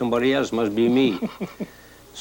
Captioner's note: laughs